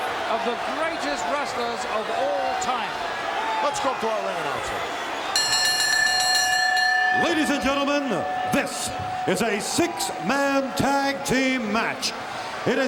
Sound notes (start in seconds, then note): 5.7 bell ringing